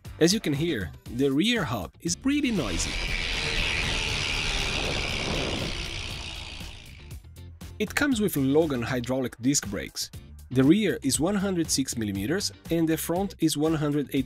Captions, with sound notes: as you can hear, the rear hub is pretty noisy [Rear Hub Sound] it comes with Logan hydraulic disc brakes the rear is 160mm and the front is 180mm